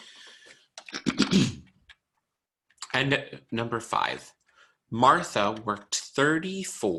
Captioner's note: clears throat